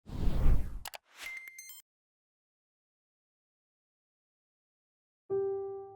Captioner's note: mouse clicking; gentle piano music